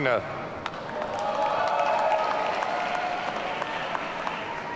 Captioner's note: audience cheering